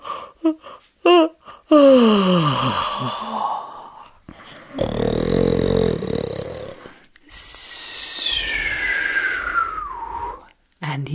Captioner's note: snoring sound